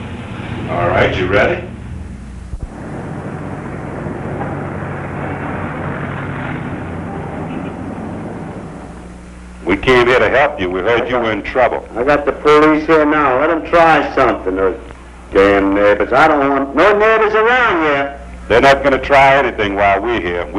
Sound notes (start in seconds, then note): 3.6 street sounds as ambulance arrives